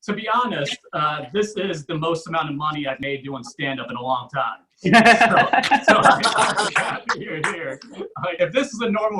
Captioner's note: audience Laughs